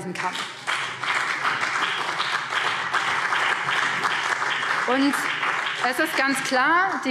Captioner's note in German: Beifall BÜNDNIS 90/DIE GRÜNEN und CDU